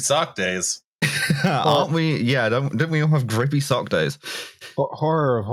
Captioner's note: laughs